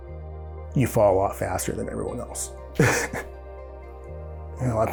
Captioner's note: chuckles